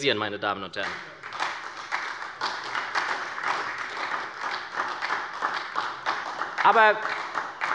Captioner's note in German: Beifall bei der SPD